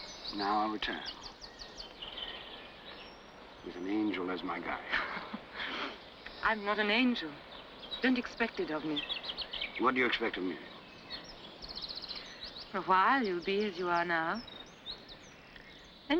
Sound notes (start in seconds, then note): 2.0 birds chirping; 4.9 Jane laughs